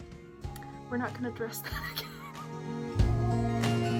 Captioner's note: wheezing laughter